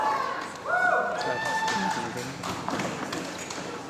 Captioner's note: applause